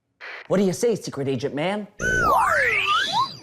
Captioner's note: whispering